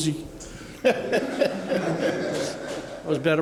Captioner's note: laughter